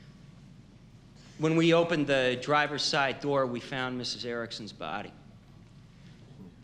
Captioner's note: none